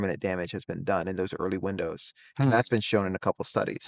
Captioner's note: hums